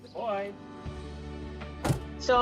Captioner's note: door closes